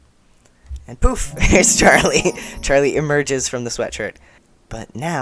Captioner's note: magical trill